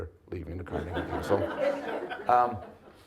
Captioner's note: audience laughs